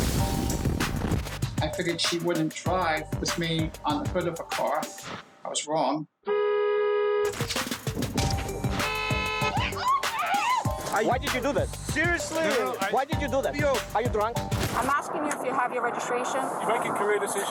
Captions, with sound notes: >>I figured she wouldn't drive with me on the hood of her car. I was wrong. (car horn honks) >>Why did you do that seriously? Why did you do that? Are you drunk? >>I'm asking you if you have your registration.